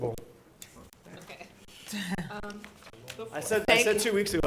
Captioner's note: chuckling